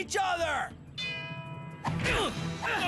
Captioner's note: bell ringing; both Grunting and growling